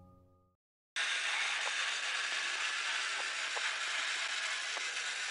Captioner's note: train rustling